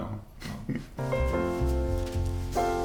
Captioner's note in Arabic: أقصى ضحكات مكتومة; موسيقى البيانو